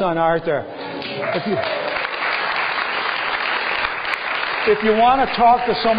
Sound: applause

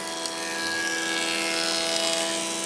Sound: machine noise

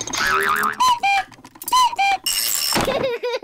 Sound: panting; clock cuckoos; laughs

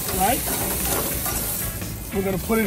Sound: steaks sizzling

